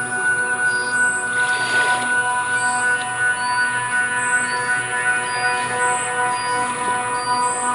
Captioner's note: Crescent high frequency